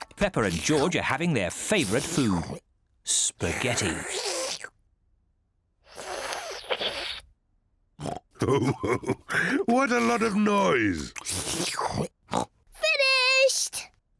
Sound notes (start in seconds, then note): 0.0 munching; 4.2 slurps; 8.0 oinks and laughs; 11.4 slurps and oinks